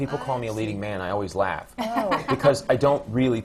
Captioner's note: swoosie laughs